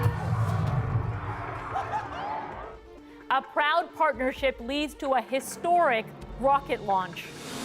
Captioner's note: crowd noise